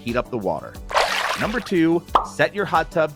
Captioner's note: water swooshing